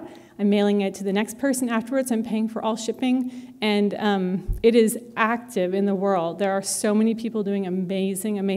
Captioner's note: none